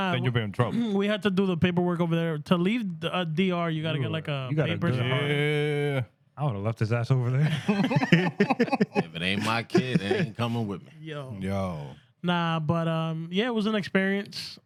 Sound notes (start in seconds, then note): 7.4 laughter